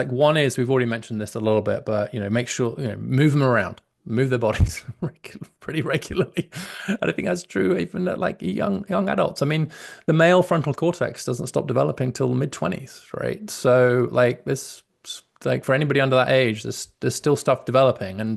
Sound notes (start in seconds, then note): 6.0 laughs